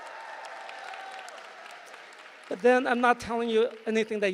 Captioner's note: applause